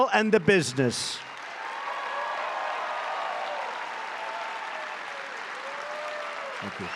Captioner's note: applause